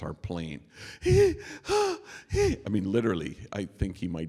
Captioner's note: imitating panicked breathing